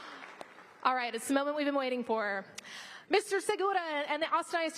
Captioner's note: applause